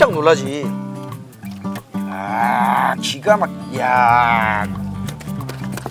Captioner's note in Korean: 감탄